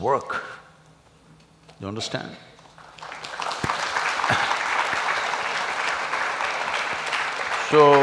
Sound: applause

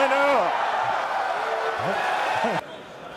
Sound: applause

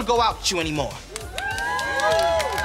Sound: cheering

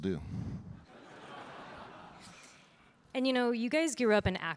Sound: audience laughing

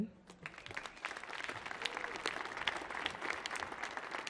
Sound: audience clapping

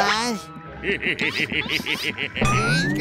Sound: laughing

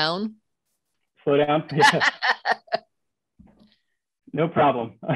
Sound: laughter

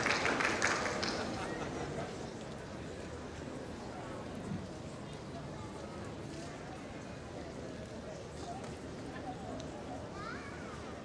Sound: applause

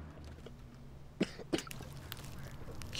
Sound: coughing

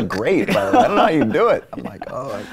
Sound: both laughing

